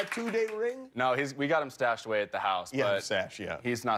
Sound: applause

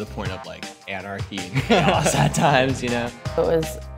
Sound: laugh

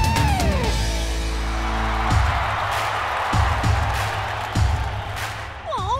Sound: cheering

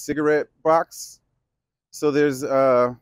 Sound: none

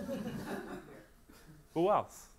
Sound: audience laughs

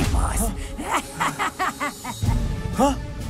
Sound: laughing

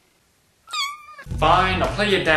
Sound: sad Meow

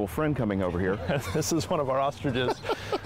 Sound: laughing

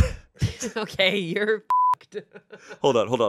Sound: laughs; beep

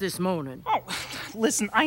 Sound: scoffs

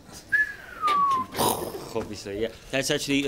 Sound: repeats whistle

